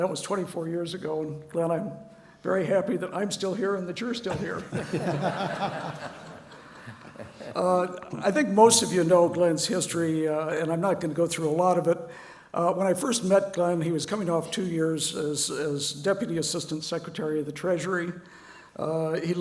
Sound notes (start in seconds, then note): 4.4 laugh